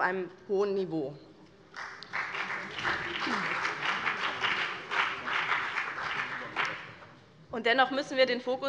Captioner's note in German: Beifall BÜNDNIS 90/DIE GRÜNEN